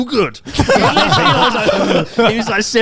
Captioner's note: all laughing